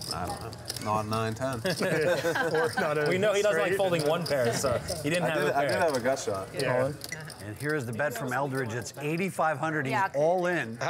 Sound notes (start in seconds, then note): 1.6 laughter